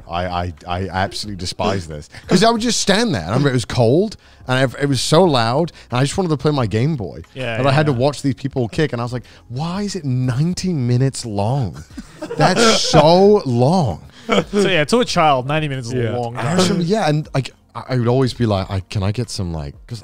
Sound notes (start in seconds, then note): 14.1 laughing